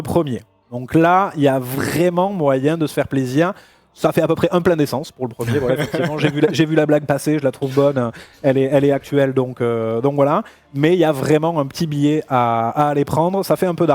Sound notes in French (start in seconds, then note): 5.4 rires